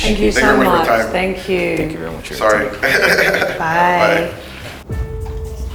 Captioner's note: laughs